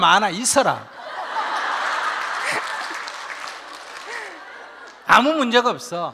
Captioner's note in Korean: 질문자와 청중 웃음